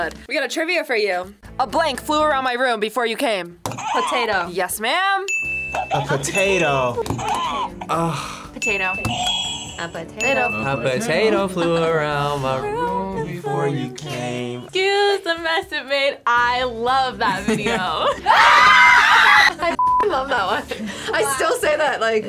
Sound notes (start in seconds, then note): 5.2 bell rings; 5.3 buzzer rings; 8.6 bell rings; 8.6 buzzer rings; 18.3 screams